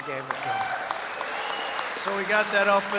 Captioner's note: applause